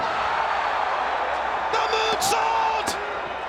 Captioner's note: crowd cheering